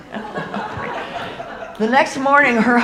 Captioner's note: audience laughing